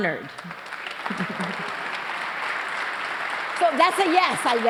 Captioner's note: applause